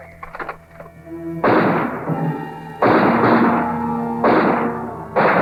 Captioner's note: gunshots